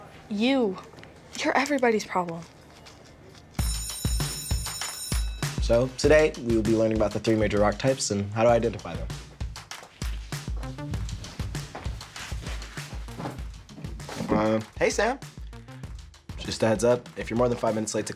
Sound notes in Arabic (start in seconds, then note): 3.6 يرن جرس المدرسة; 9.4 موسيقى بوب مبهجة